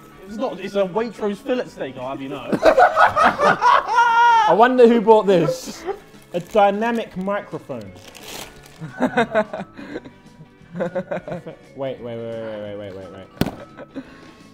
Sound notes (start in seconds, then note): 2.5 JJ laughing; 8.8 Vik laughing